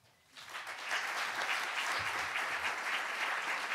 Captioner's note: crowd; clapping